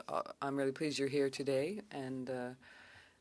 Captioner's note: speaking French